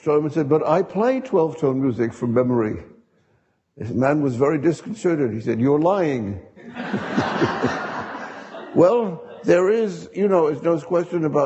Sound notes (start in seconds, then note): 6.6 audience laughing